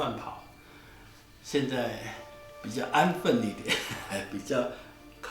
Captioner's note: laughs